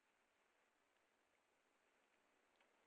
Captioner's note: none